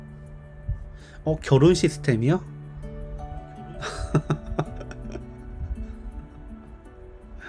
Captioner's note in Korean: 웃음